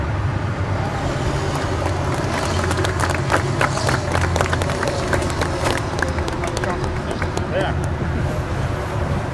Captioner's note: clapping